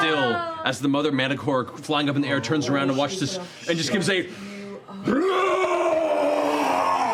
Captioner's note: screaming; roar